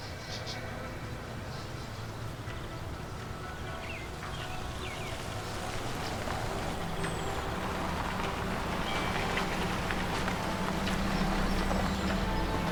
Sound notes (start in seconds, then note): 6.3 birds calling; 6.3 gravel crunching